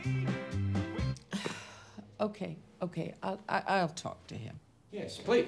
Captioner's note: sighs